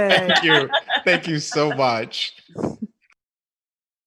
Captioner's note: laughing